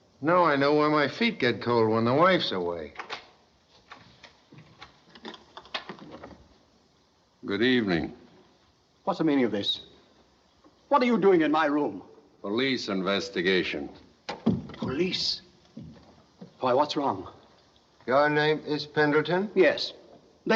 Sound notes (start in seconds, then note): 2.9 latch Unlocking